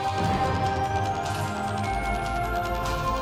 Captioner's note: gunshot